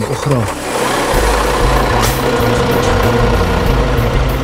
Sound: the truck engine starts sound

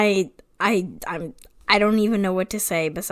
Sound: stammering

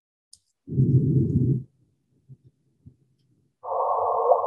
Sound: whooshing

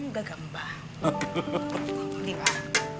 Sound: laughs

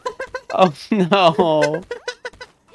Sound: the laugh bomb has exploded

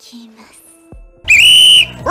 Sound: whistle

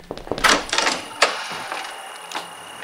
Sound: door creaks open

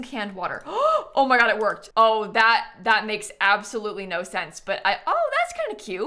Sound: gasps

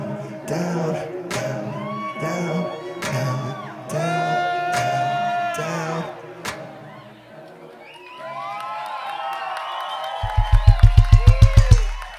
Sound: audience cheers

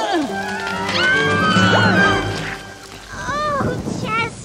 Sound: scream

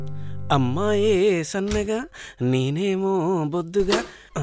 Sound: humming song

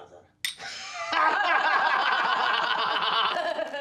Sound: both laugh

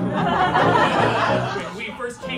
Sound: laughter

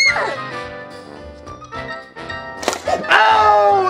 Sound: screams

